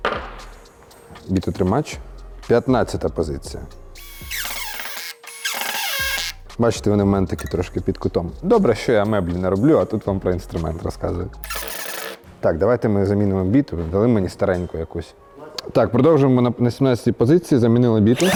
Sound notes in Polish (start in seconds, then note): 4.0 dźwięk wkrętak; 18.1 dźwięk wkrętarki